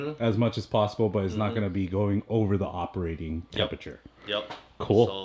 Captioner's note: none